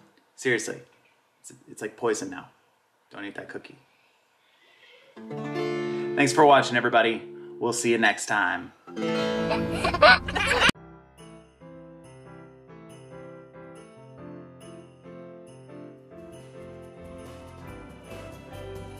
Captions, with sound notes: Seriously. It's like poison now don't eat that cookie. Thanks for watching everybody. We'll see you next time. (giggling) (outro music)